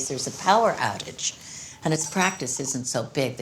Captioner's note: none